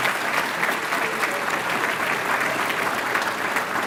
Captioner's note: applause